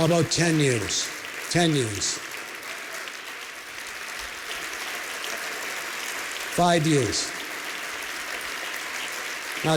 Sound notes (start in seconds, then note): 2.4 applause; 7.5 applause